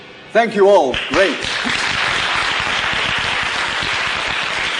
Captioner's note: applause